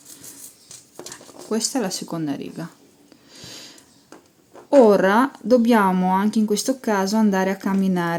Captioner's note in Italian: sbuffare